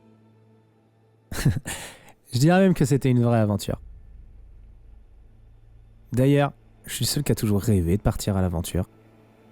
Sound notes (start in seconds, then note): 1.3 haha